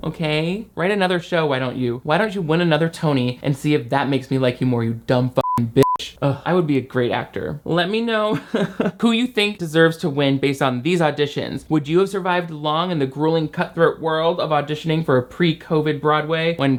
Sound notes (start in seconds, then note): 5.4 beeps; 8.3 laughing